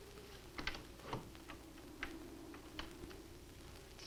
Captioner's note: door opens